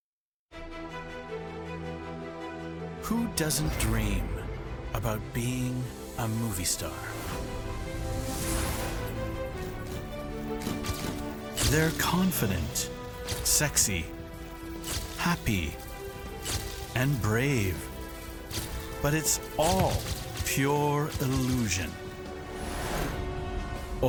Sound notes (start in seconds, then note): 9.5 cameras clicking